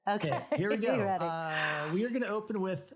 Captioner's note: laughs